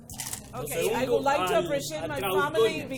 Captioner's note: speaks in foreign language